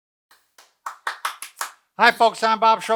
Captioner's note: clapping